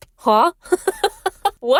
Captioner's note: laughs